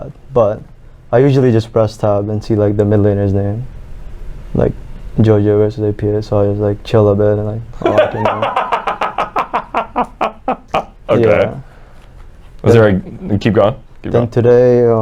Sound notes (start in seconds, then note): 11.8 laughs